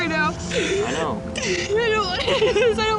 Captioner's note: sobs